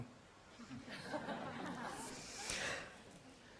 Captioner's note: laughter